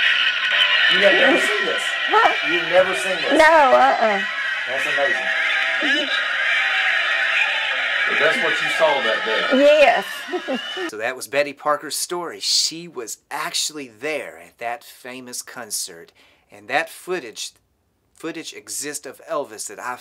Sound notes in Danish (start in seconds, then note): 4.3 Bifald